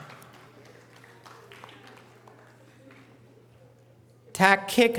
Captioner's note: audience applause